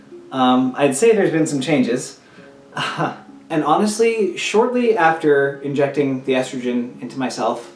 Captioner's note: laugh